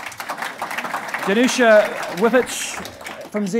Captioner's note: applauding